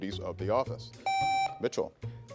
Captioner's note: contestant beeping